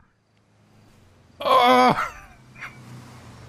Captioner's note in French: il crie